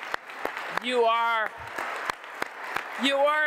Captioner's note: applause